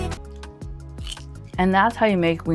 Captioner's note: cronch